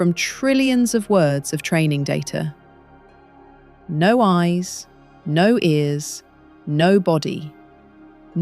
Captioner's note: serious tone